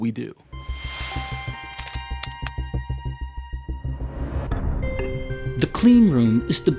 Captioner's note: typewriter keys clicking